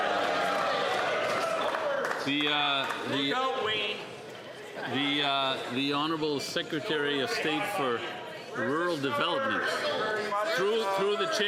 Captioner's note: some Applause